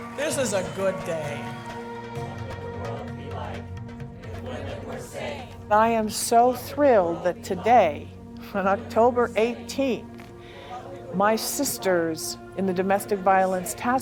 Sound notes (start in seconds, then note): 2.3 chant